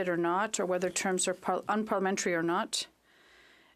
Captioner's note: speaking French